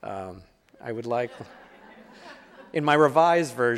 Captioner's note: audience laughing